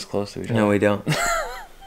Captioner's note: laughing